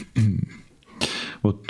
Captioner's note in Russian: фыркает